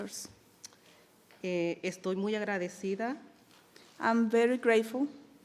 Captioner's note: speaking in foreign language